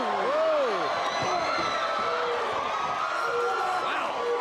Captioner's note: audience cheers